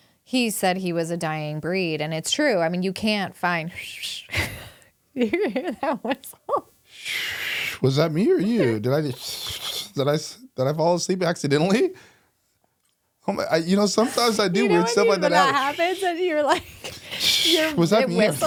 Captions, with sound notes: He said he was a dying breed, and it's true. I mean, you can't find-- (whistling) You hear that whistle? (whistling) - Was that me or you? Did I fall asleep accidentally? Sometimes I do, we're still in the house. - You know what happened? You were like-- - What's that mean?